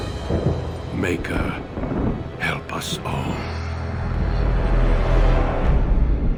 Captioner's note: thunder booms